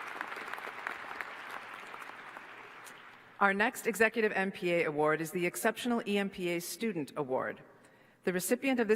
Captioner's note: applause